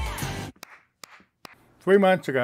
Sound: clapping

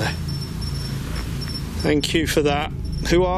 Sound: device beeps

